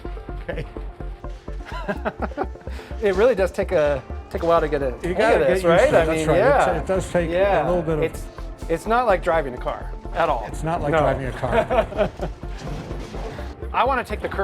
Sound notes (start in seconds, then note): 1.6 laughs; 10.9 laughs